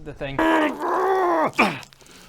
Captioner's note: arrrghhh! grrrrrggghhh!